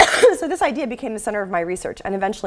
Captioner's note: cough